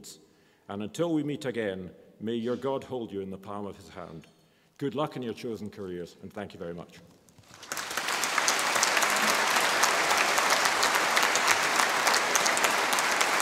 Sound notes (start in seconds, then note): 7.4 audience applause